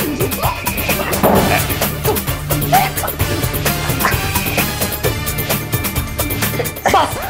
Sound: quarreling

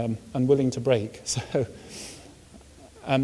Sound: chuckles

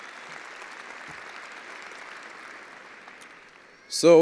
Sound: attendees applauding

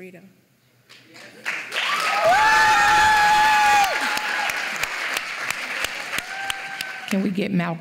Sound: applause

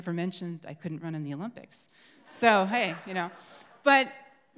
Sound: crowd laughs

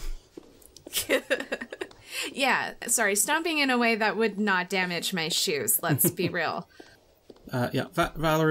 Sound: laughs

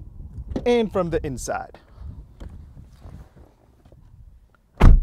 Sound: car door closing; car door closing

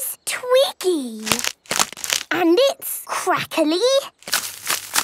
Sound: crackling

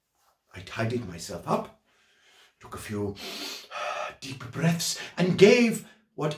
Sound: gasps

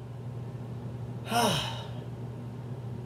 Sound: sigh

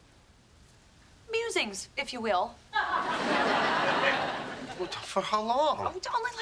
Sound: audience laughing

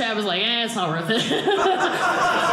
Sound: audience laughing

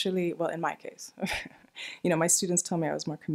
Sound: laughs

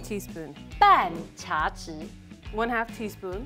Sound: speaking in mandarin

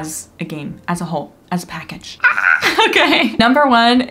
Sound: screams

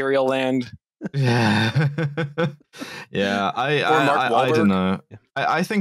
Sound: laughs

